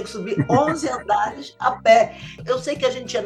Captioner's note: laughs